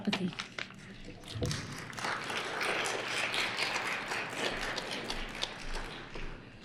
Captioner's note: applause